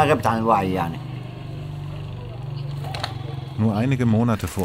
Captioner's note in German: Straßengeräusche im Hintergrund